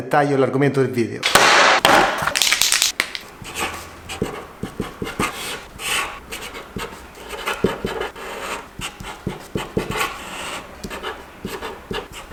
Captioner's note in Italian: Applauso